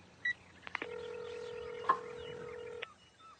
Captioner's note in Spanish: Sonido de llamada